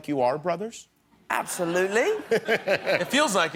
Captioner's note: laughter